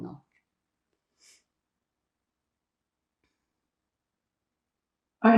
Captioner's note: pauses 4 seconds